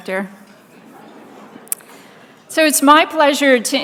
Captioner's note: laughing